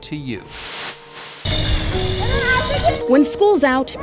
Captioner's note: air whooshing